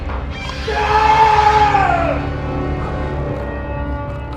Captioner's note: yelling